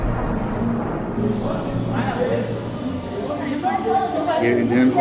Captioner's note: people chattering